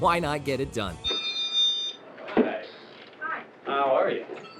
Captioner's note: ringing